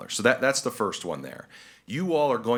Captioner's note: none